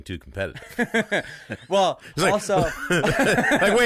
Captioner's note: amused laughing